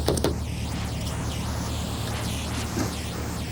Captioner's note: knocking